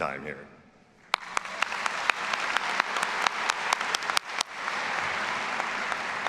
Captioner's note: all applauding and cheering